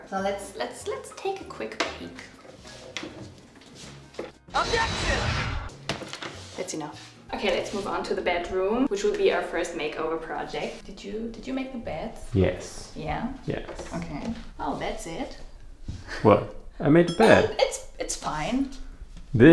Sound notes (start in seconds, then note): 16.1 chuckles